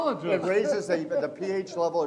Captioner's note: laughs